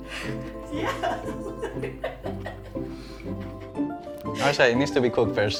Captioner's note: laughs